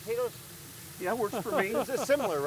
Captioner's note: laughing